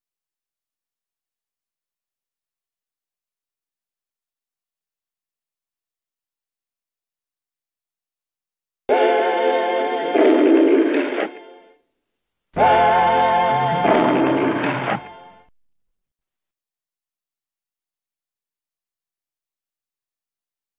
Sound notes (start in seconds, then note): 0.2 silence; 12.6 music ending as Leo the Lion roaring; 17.3 silence